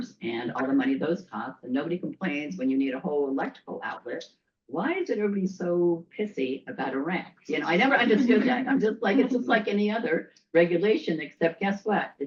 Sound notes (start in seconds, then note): 8.0 laughter